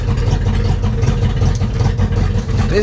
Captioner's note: engine noise